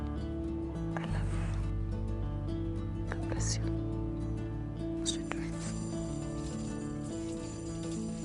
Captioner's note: whispering